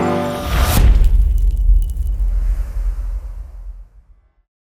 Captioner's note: impact